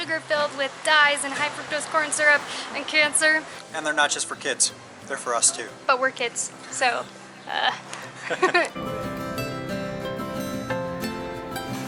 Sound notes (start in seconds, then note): 7.4 laughing